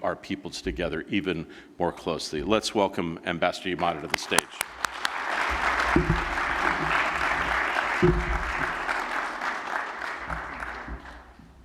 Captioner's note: applause